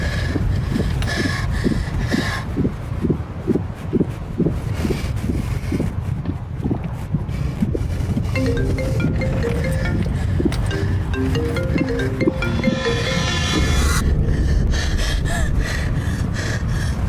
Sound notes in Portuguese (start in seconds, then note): 0.0 respiração ofegante; 8.3 telefone tocando; 14.2 respiração ofegante